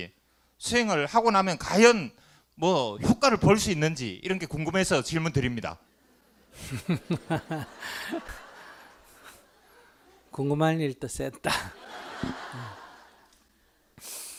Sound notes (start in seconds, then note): 6.0 laughter; 11.5 audience Laughter